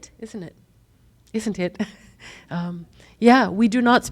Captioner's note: laughs